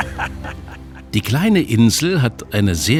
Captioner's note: laughs